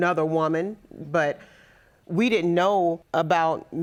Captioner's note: none